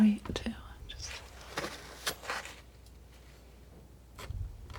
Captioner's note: scratching